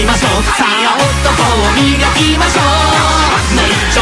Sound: ha Ha Ha Ha Ha

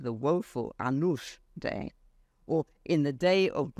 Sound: speaks foreign language

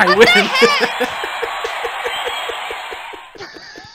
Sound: laughs

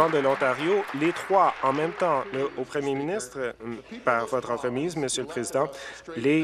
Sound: applause

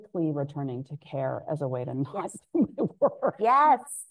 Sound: laughing

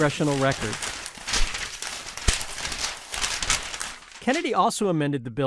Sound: audio rustling

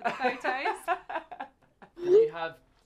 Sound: laughs

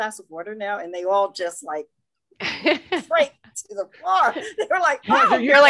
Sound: laughing

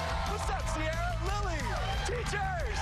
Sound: cheers and applause

